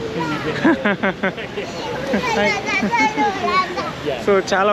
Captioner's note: chuckles